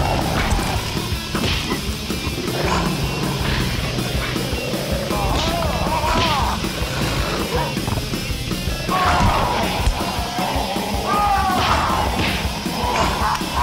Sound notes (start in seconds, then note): 6.2 dramatic music; 8.7 man groans